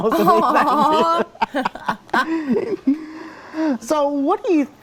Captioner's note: laughing